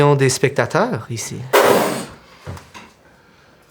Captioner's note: Riz'shar spits out his cocktail